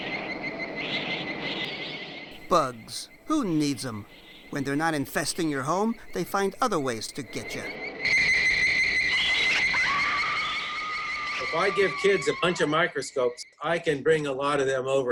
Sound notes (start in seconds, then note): 0.1 insects chirping; 8.3 insects chirping; 10.4 screaming